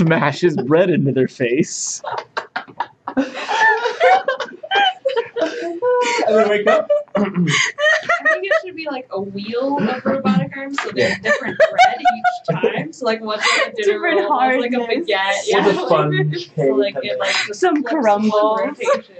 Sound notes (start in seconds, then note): 2.0 everybody laughs hysterically